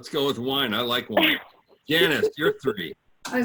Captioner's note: laughs